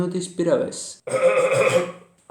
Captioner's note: clears throat